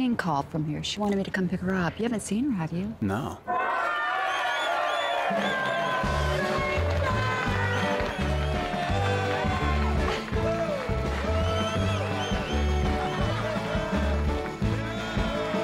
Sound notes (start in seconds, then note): 1.2 sudden cheering and applause; 5.9 cheering and applause